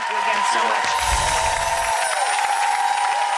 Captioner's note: audience cheering; bells chiming; audience cheering